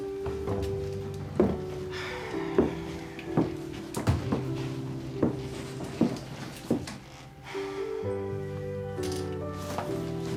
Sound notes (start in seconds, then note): 0.0 door opening; 1.8 sighs; 7.4 sighs